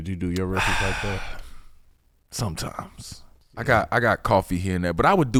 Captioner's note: sighs